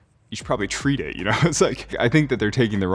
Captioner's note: Alex laughing